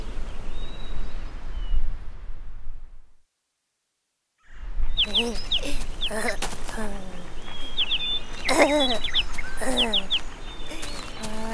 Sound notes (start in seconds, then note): 8.3 kid laughing